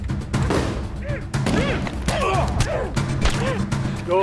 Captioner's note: grunting